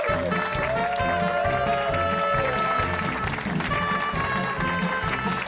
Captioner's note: applause